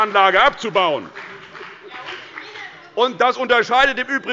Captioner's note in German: Große Heiterkeit – Beifall bei dem BÜNDNIS 90/DIE GRÜNEN